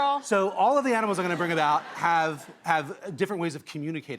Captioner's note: audience laughs